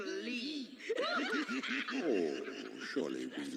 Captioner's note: laughter